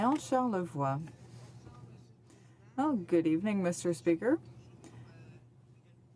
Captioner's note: speaking french